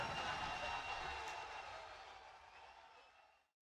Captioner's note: audience cheering